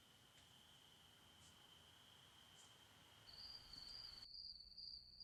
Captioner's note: crickets